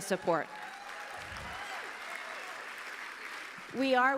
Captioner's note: applause